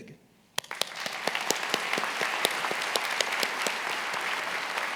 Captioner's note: attendees applauding